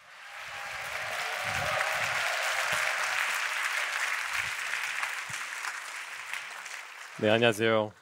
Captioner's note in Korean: 박수와 환호